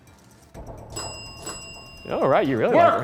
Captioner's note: bell dinging